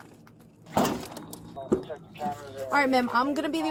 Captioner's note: radio chatter